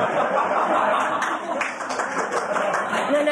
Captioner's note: laughter, applause; laughter